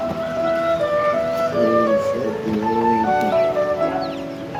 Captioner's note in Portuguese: Voz masculina